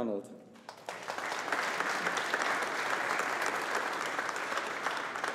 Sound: audience applauding

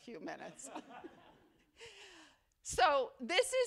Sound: laughter

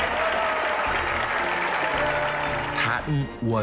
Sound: crowd applauding; crowd cheering loudly

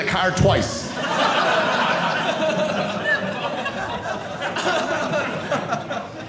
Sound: audience laughing

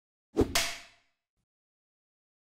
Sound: clap

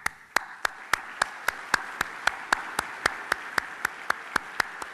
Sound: applause

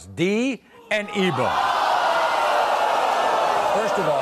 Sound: crowd jeers

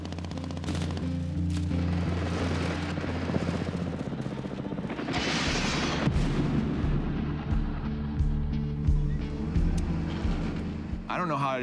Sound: gunfire

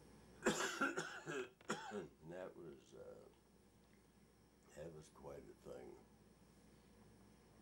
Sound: coughs

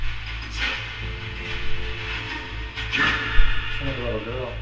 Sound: radio noise hissing

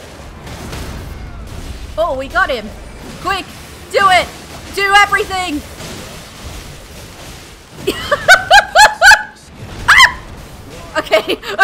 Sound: laughter, yelp

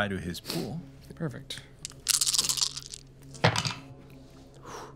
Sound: dice rolling

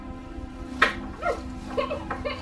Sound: thump; sobbing

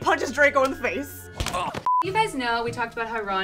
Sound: punch landing; a beep

